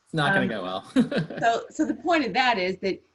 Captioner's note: laughs